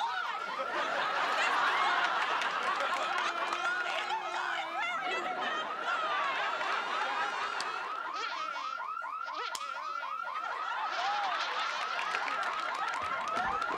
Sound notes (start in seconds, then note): 7.2 fly buzzing